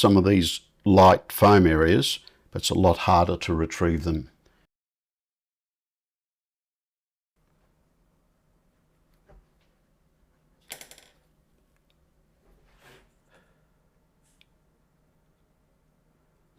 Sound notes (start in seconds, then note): 4.3 silence